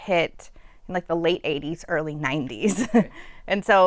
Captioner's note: laughter